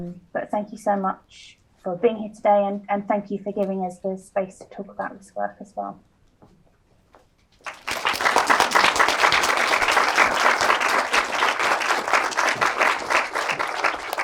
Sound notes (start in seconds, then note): 7.6 audience applauds